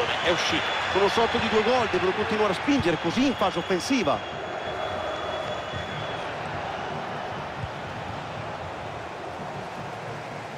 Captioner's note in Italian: Applauso